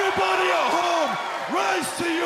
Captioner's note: cheers and applause